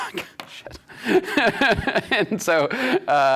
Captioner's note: laughing